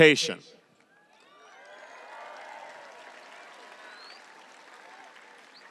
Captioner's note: audience applauding and cheering